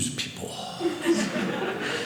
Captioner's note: audience laughing